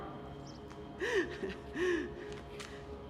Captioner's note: chuckles